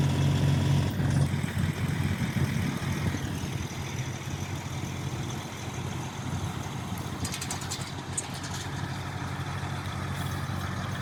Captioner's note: engine noise